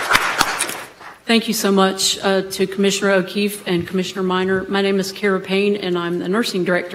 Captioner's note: applause